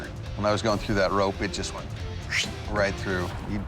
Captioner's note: imitates swishing